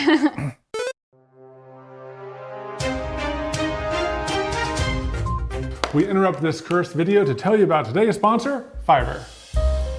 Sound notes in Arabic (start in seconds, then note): 0.6 أصوات لعبة فيديو; 1.2 موسيقى درامية; 8.6 موسيقى هادئة